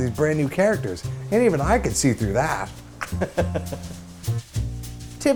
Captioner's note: laughs